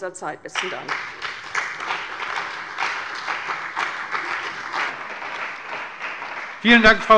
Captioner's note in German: Beifall bei der CDU und dem BÜNDNIS 90/DIE GRÜNEN